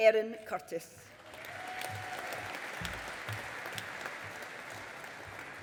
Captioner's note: audience applauding